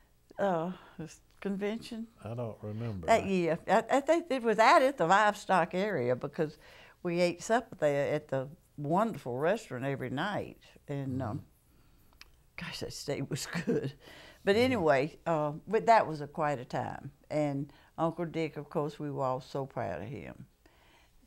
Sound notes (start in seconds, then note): 14.9 laughter